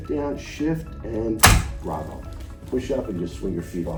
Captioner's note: table clanking